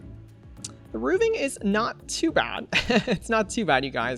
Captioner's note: laughs